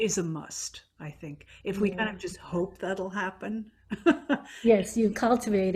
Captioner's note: laughs